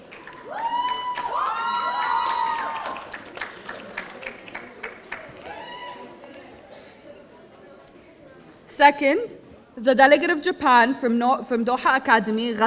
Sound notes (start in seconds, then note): 0.0 audience applauding; 0.0 audience cheering